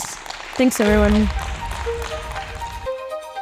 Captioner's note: audience applauding